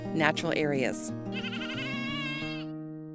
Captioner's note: goat bleats